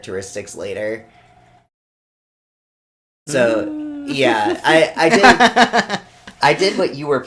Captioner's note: laughs